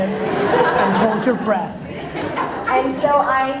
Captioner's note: audience laughter